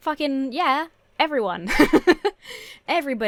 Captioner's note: laughs